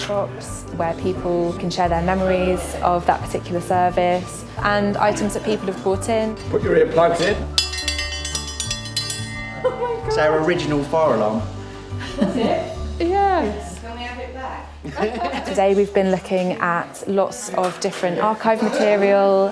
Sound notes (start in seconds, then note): 7.4 triangle rings; 14.8 laughs